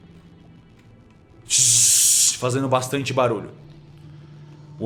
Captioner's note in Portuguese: tzzz